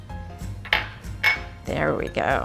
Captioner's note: bowl clinking